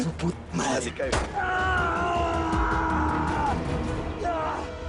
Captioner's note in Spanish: Disparo; Quejidos